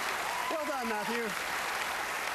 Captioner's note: applause